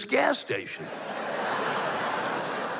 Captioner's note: laughter